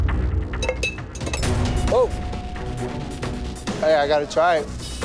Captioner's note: glasses clinking